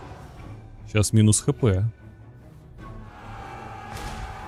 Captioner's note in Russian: крик